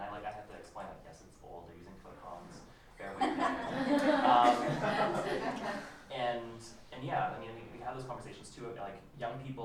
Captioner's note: laughter